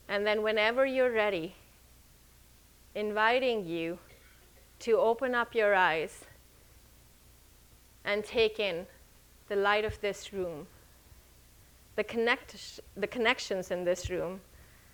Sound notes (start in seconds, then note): none